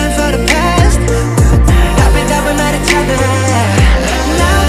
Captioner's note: nervous